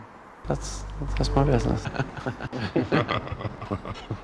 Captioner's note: laughing